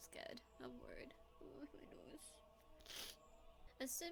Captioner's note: sniff